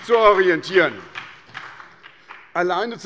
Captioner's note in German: Beifall bei der SPD